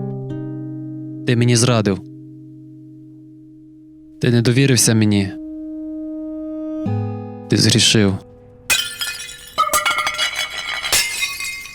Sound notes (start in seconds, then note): 8.7 falling Plates crashing